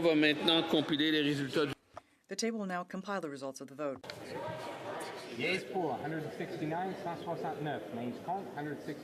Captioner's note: speaking French